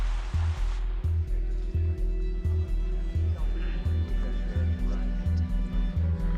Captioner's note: people talking in background